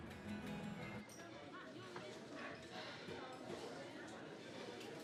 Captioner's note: crowd chattering